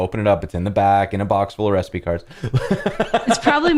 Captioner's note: laughter